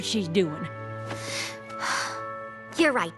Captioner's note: sigh